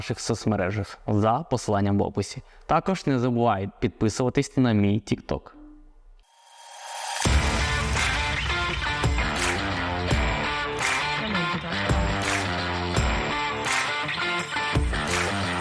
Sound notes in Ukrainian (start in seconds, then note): 6.8 оплески